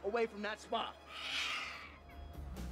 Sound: screeches

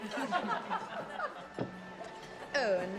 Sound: laughter

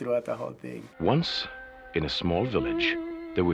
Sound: voice-over

